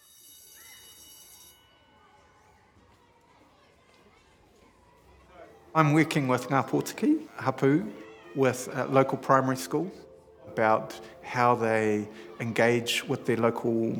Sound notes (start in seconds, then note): 0.0 school bell rings; 4.2 kids talking